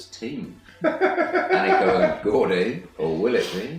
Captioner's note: laughing